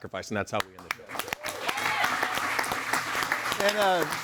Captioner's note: audience applauds and cheers